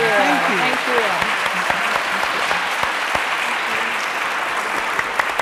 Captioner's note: audience cheering